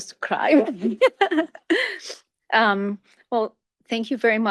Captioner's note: chuckles